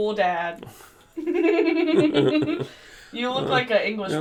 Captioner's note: both laughing